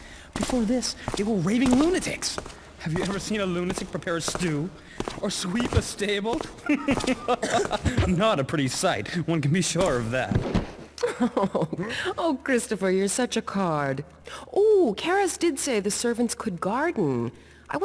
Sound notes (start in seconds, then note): 6.5 laughs; 11.0 laughs